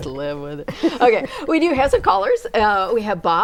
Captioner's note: laughing